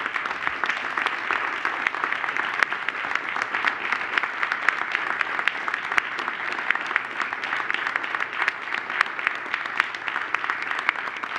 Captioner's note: applause